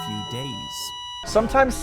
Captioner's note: monitor beeping